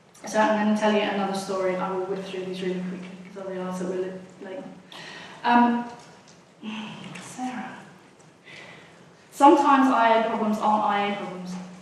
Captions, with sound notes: So I'm gonna tell ya another story, I will whip through these really quickly 'cause I realize that we're a little late. (groans) Sarah. Sometimes IA problems aren't IA problems.